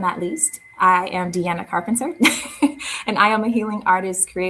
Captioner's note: chuckles